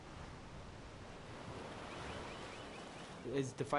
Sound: waves crashing; gulls squawking

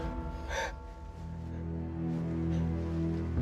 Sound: mollie whimpers; tense music

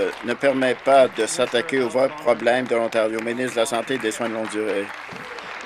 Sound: applause

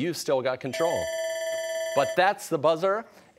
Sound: bell ringing

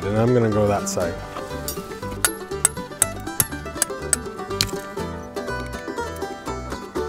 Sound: upbeat music; hammer hitting metal

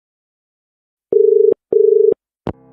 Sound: dial tone

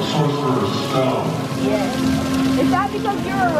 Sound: fountain

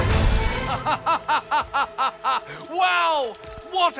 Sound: laughter

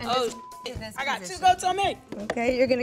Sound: beep

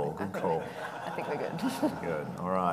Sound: audience laughing

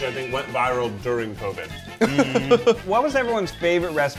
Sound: laughing

